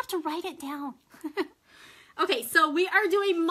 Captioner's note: laughs